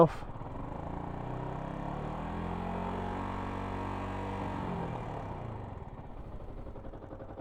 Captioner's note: engine revving